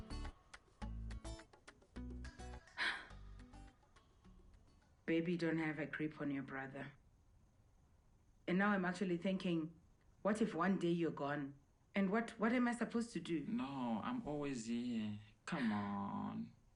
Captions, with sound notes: [exhales] Babe, you don't have a grip on your brother. And now I'm actually thinking, What if one day you're gone? And what-- what am I supposed to do? No, I'm always here. Come on,